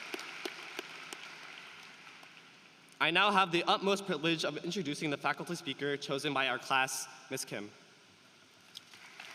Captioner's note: applause